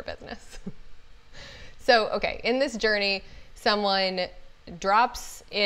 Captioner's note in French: rires